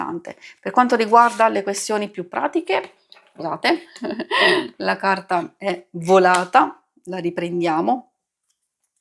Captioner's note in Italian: risate